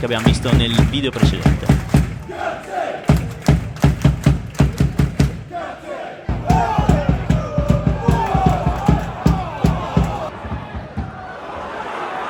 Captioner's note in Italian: Applauso